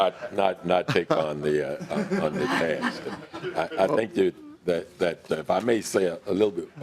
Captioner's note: laughing